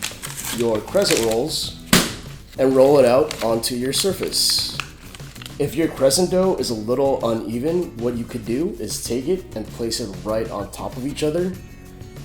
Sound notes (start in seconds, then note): 1.8 POP noise